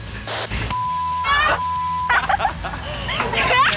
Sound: beep; all laugh

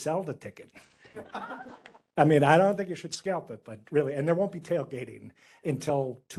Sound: laughing

